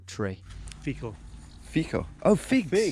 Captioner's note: speaking in a foreign language